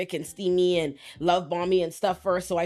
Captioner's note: none